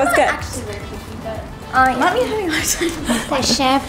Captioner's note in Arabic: ثرثرة جماعية